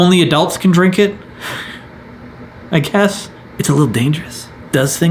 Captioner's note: chuckles